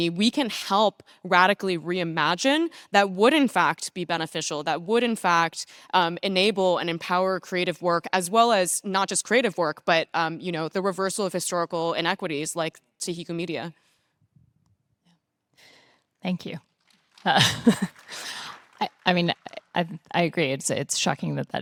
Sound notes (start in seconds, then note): 17.0 participants applauding; 17.2 laughing